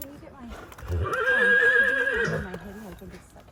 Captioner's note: horse whinnying